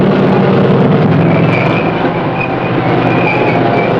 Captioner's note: revving